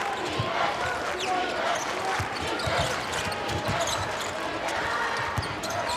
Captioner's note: crowd